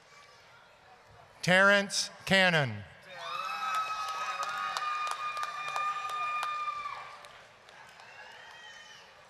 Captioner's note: applause, cheering